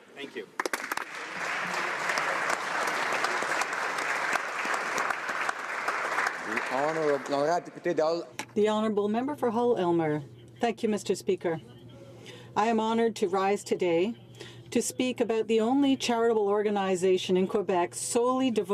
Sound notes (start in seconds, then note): 4.5 applause